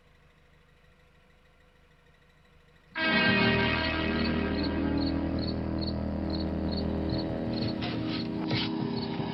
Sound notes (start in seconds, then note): 0.4 engine revving; 2.5 suspenseful music; 3.7 crickets chirping